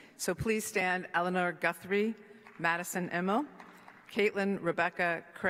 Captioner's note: applause